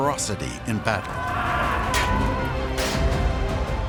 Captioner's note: swords clanging